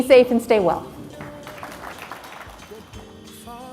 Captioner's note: audience applauds